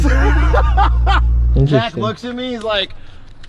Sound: laughs

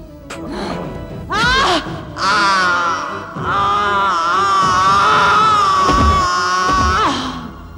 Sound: groaning in pain

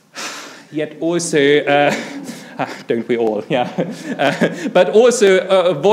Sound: laughs

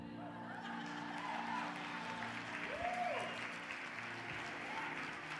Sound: audience cheering and applause

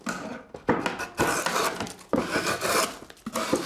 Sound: wooden scraping

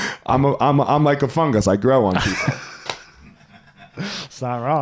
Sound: laughing

